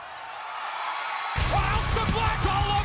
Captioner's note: cheers and applause